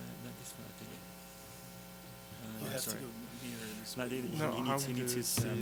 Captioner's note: talking quietly about setup